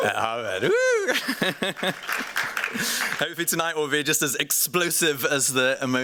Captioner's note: laughs